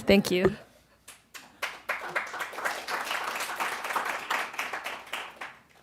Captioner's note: applause